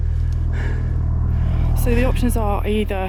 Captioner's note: heavy breathing